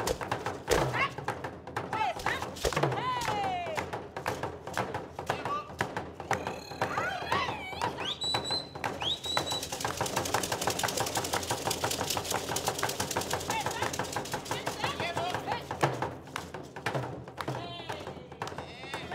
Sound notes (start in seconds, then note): 0.1 drums beating and beads shaking; 6.3 shouting and whistling; 10.7 drums beating and beads rattling